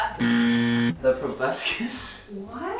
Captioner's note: buzzer buzzing